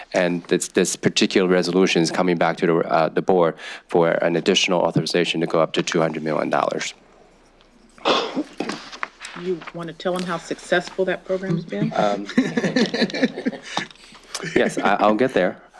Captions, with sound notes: And this particular resolution is coming back to the board for an additional authorization to go up to $200 million. Do you want to tell him how successful that program's been? [CHUCKLING] Yes, I'll get there.